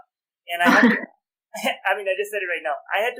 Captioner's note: laughter